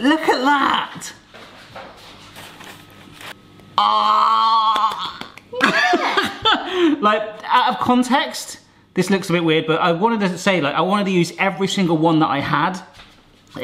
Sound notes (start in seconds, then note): 4.7 clapping; 5.5 laughing